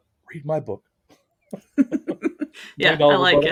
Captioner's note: laughing